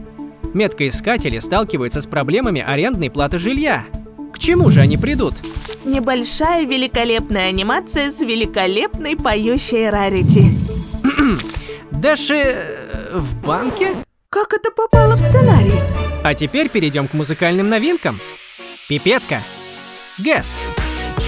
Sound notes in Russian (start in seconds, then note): 10.1 Кхе-кхм